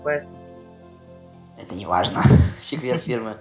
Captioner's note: epic voice